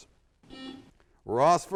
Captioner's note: buzzer sounds